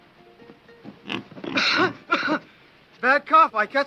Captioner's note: pig snorting; Tommy coughs